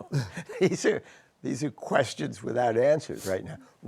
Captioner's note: chuckles